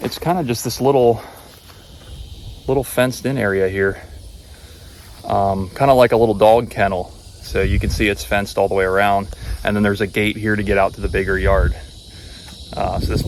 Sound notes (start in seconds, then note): 4.2 insects chirping